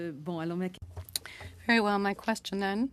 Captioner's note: speaking French